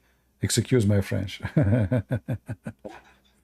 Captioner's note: Ketawa